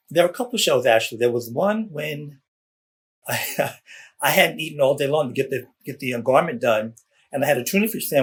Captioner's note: laughs